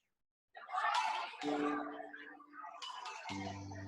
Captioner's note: group talking